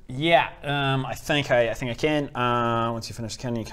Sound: none

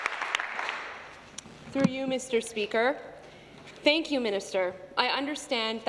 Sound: some Applause

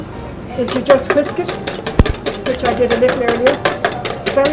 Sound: loud whisking

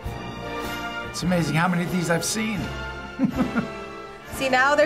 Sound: laughs

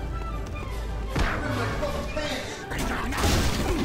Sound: comically cheery music playing; bash; comically cheery music playing

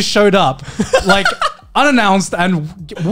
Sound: laughing

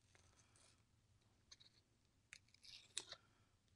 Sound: paper tearing

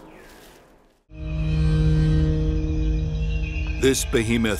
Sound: light dramatic music; crickets chirping

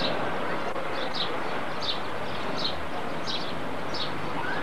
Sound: street noise

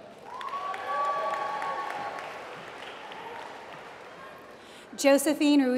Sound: applause

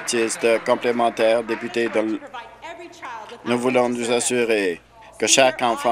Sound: applause

